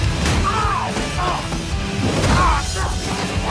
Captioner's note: groaning